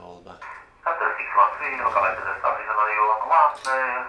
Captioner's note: Radio call from boing 738